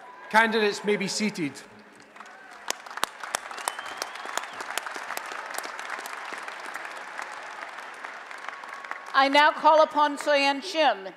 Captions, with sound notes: Candidates may be seated. [ Applause and Cheering ] >> I now call upon Soyeon Shim,